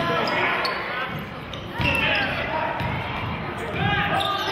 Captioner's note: yelling